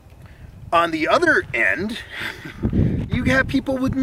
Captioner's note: chuckles